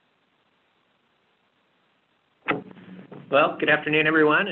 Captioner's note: silence